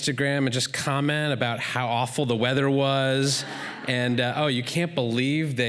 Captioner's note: laughter